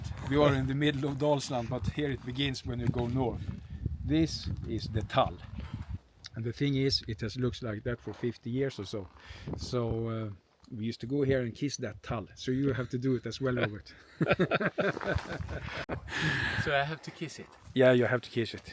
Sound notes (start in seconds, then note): 14.2 laughing